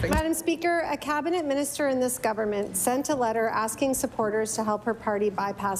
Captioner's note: applause